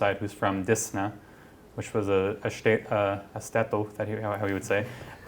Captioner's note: non-english speech